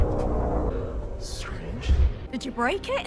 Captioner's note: groaning sound